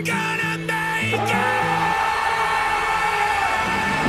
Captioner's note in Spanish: Fisk y Matt gritan